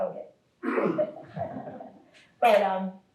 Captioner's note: audience laugh